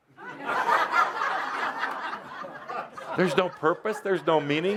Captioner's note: laughter